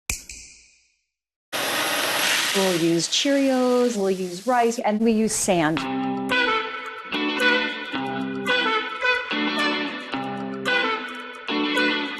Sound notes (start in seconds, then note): 0.1 snap